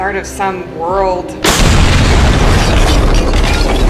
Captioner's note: explosion; monster squelling